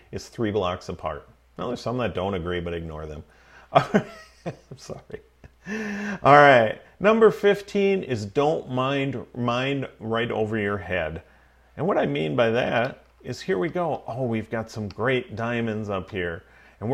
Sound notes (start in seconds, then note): 5.4 laughing